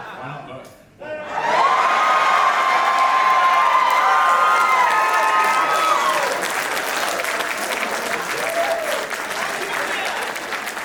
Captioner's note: massive audience cheer